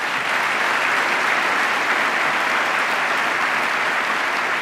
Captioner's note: applause